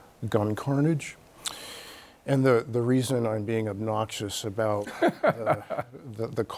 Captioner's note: Bob laughs